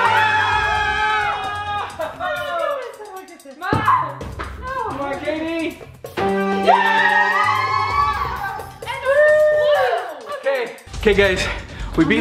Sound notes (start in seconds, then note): 0.0 screaming; 6.5 victory music; 6.6 screaming